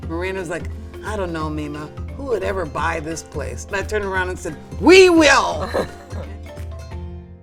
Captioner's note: laughs